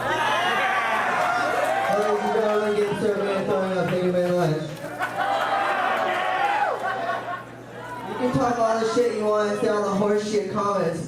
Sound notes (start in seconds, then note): 0.0 audience cheering